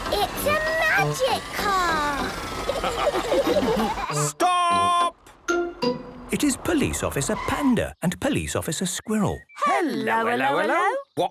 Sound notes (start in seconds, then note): 2.4 all laughing